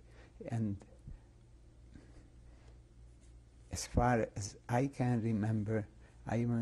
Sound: pauses for 3 seconds

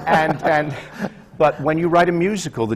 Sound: laughter

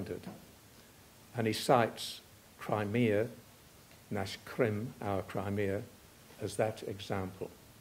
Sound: russian

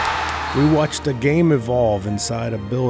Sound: cheering; voiceover

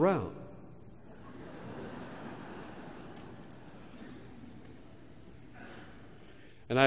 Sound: laugh

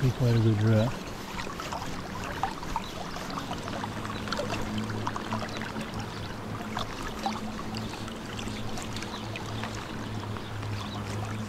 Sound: water splashing

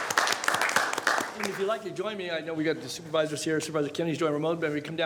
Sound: applause

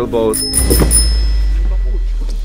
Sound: bicycle bell

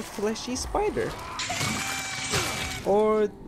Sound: screams

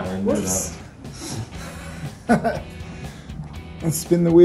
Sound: laughing

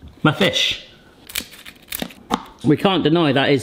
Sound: batter crunching

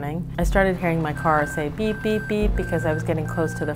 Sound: beep

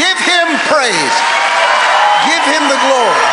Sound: congregation cheering

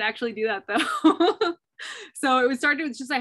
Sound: laughter

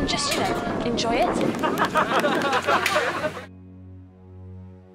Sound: group cheer

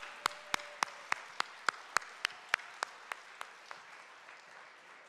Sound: audience clapping

